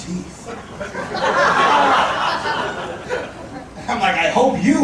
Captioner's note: audience laughing